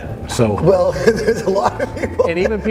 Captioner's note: laughs